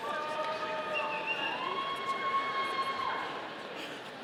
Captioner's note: audience cheering